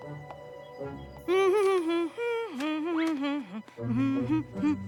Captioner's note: humming